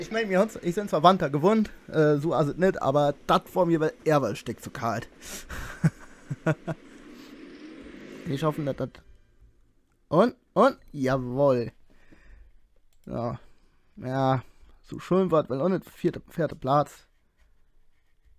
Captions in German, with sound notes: Ich, mein, ich bin zwar Winter gewöhnt, so ist das nicht, aber das war mir dann doch ein Stück zu kalt. *Lacht* Ich hoffe, dass das... Und? Und? Schön war's jetzt auch nicht, vierter Platz